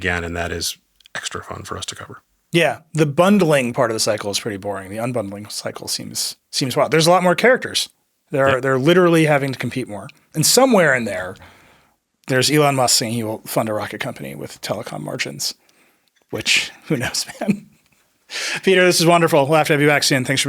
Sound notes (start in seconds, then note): 16.5 laughs